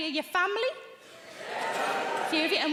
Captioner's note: audience cheering